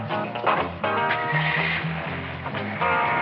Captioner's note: engine starts